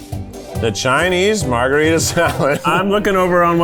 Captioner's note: laughs